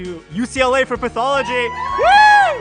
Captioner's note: cheering